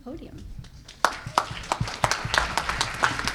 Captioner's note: applause